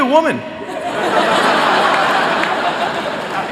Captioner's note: laughter